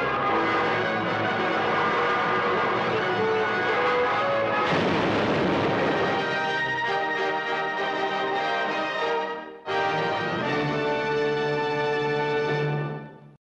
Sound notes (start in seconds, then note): 4.6 plane thuds; 6.5 dramatic orchestral music